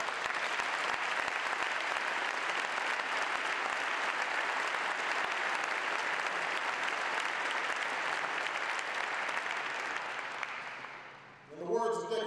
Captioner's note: applause